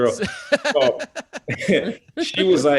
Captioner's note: laughing